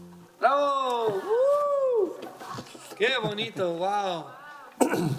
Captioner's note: speaking in foreign language